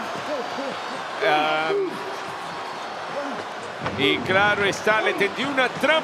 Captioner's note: applause